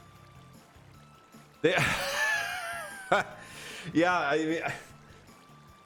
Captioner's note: laughs